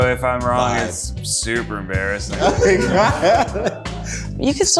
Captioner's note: laughs